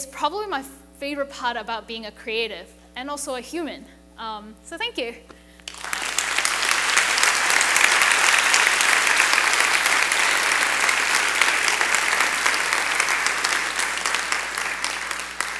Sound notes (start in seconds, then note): 5.8 applauding